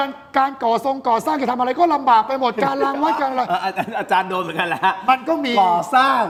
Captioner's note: laughs